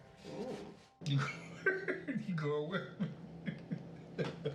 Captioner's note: laughs